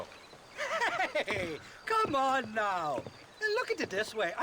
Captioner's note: laughing